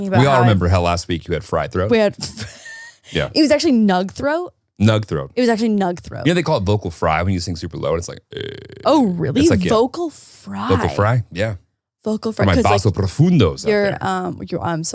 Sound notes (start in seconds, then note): 2.0 laughing; 8.2 growling